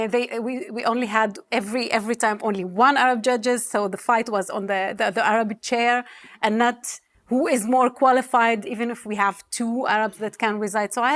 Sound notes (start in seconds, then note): none